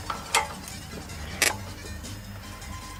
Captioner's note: creaking